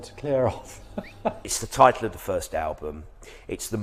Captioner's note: laughs